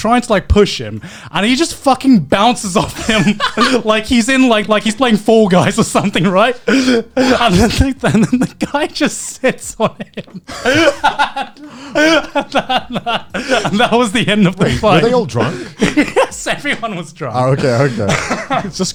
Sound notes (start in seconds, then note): 9.5 laughing